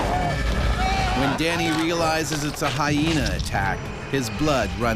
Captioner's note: voiceover